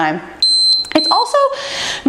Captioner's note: timer beeping